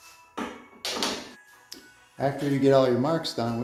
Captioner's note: metal square clangs